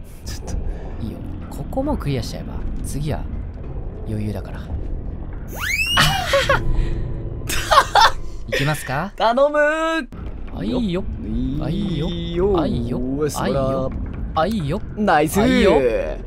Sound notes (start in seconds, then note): 5.5 comical slip sound; 10.8 affirmative murmurs